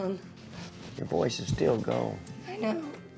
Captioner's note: says hoarsely